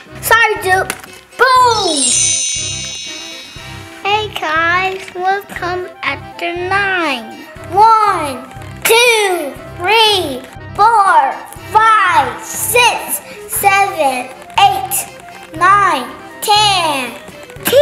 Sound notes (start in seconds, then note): 1.6 magic wand